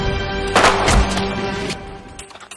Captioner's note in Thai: เสียงปืน